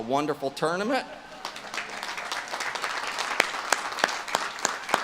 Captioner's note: audience claps